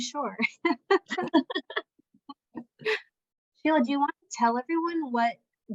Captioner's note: laughter